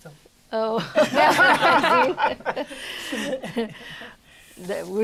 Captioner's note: laughter